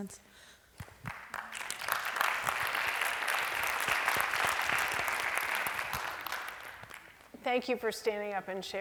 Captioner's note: applause